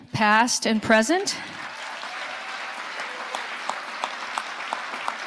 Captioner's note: audience applauding